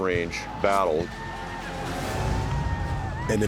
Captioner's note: yelling